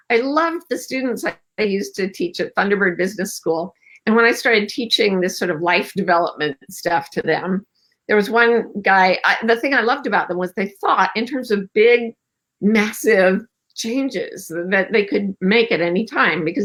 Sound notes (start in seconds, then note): none